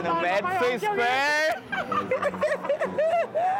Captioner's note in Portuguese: os dois riem